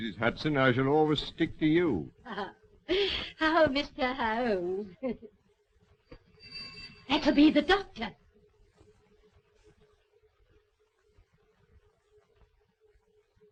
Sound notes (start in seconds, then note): 1.8 laughing; 6.3 bell ringing